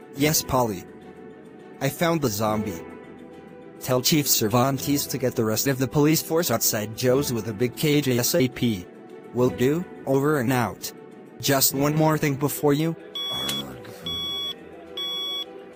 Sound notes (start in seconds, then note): 13.4 groans in annoyance